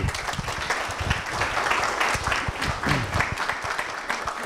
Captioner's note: students applauding